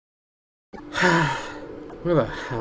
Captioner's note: sighs